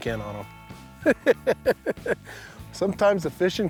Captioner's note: laughs